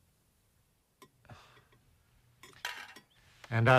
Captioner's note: sighs